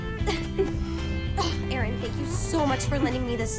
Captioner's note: stella grunting